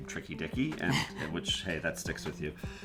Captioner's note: laughs